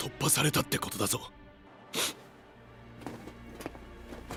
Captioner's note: MICHE inhales sharply